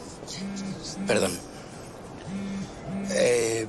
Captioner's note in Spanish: Vibra el celular